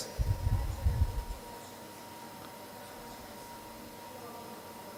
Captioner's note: woman speaking faintly